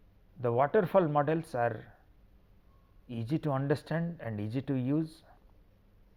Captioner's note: feedback